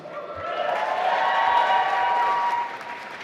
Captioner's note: applause